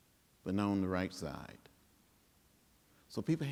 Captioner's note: none